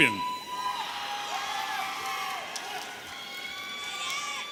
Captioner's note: audience cheering